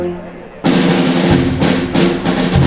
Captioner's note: chatter